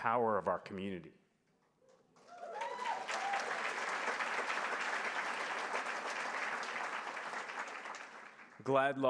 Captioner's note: applause